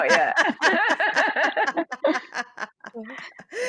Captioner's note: all chuckle